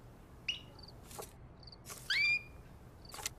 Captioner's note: bird chirping